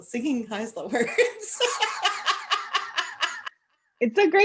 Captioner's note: laughter